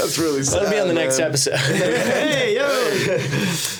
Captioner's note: laughing; everyone laughing